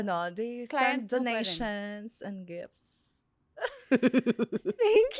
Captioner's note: laughs